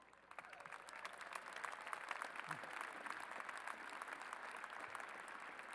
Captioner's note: applause